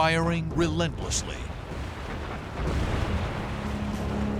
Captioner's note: explosions